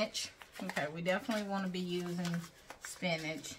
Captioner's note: plastic crinkling